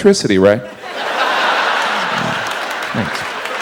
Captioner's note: audience laughs